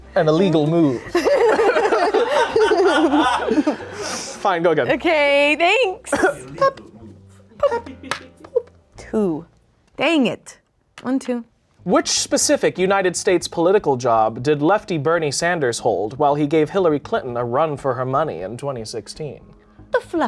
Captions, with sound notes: - An illegal move. (everyone laughs) Fine, go again. - Okay, thanks. Dang it. One, two. - Which specific United States political job did lefty Bernie Sanders hold while he gave Hillary Clinton a run for her money in 2016?